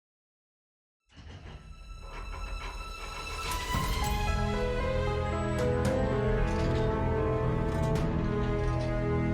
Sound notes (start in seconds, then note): 1.7 eerie music; 3.5 vault lock cranking; 5.7 eerie music